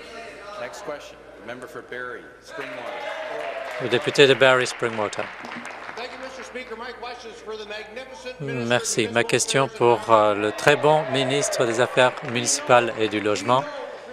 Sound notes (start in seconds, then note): 0.0 applause; 2.1 conversation din; 7.4 applause